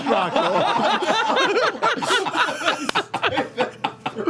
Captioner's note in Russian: смех